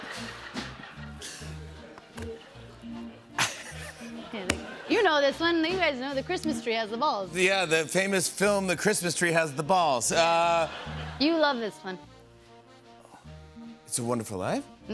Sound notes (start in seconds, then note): 10.2 laughter